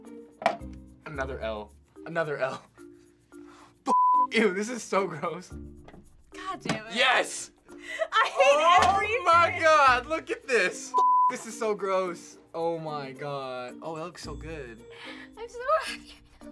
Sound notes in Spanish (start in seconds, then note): 3.9 Emitir pitidos